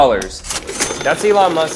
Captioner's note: bell rings